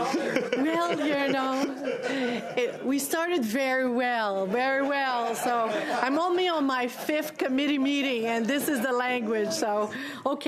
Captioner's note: laughter